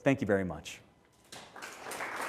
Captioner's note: applause